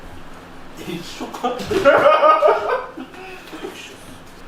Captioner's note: laughs